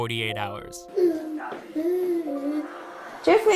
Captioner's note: cry